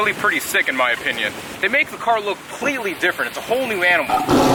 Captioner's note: turtle Growl sound